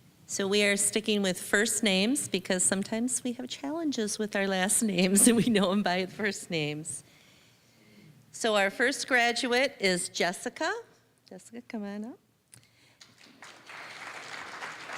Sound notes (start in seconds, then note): 5.1 chuckling; 13.0 applause